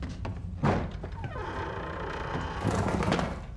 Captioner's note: creaking